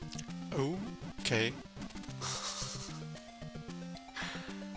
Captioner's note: laughs